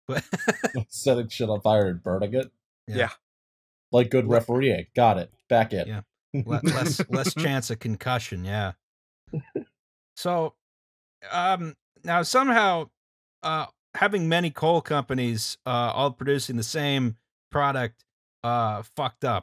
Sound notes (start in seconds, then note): 0.1 laughter; 6.5 laughter